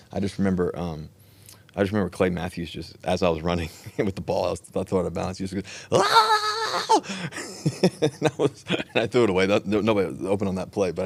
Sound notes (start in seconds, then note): 5.9 Russell screaming; 7.4 Russell laughs